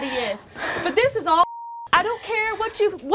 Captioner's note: beep